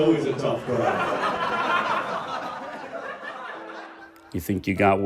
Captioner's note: audience laughs